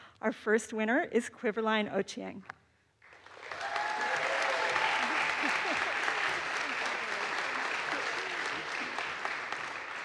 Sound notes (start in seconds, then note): 3.1 audience applauds; 3.4 audience cheers